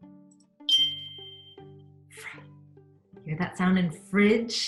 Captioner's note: beep